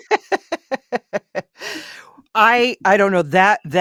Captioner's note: laughter